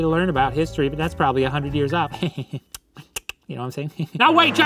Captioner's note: chuckles